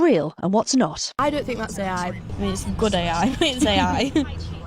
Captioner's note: laughs